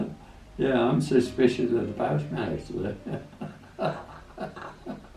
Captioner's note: laughs